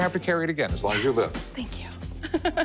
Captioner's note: laughs